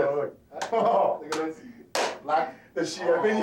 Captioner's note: claps